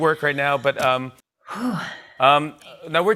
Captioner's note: breathes deeply